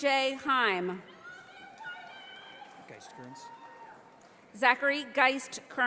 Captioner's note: audience applauding